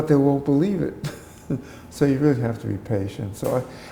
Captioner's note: chuckle